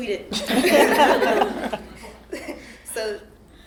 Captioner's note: all laughing